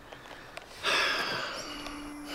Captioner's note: sighs